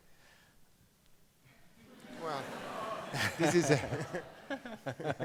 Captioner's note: audience laughs; Browne laughs